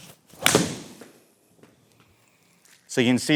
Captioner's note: club smacking